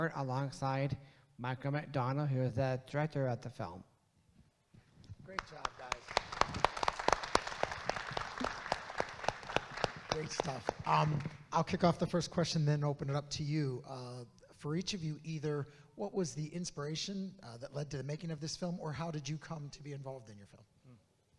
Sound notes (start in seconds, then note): 5.3 claps; 6.9 audience claps